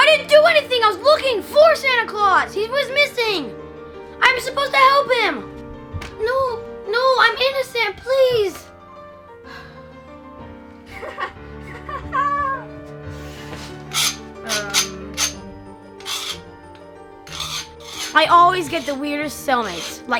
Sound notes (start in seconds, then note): 9.9 sighs; 10.9 laughing; 17.2 scraping